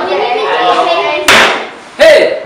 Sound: table slap

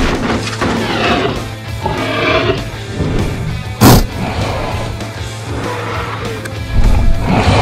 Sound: crashing vehicle sound; growling

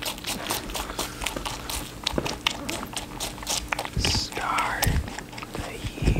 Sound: rabbit munching

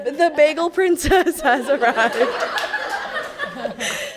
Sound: laughing

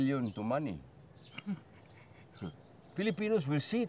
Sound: chuckles

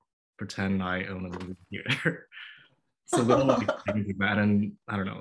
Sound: laughter

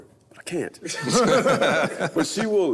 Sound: all laugh

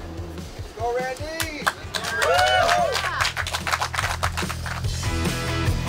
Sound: cheering & Clapping

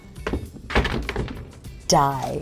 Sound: box crashing

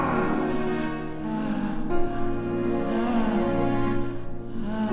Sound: sighs

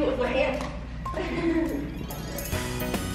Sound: laughing; christmas music playing

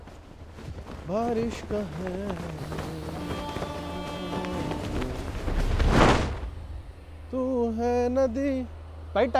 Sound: humming song

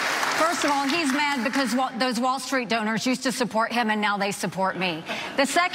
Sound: applause

